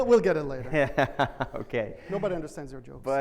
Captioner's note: laughs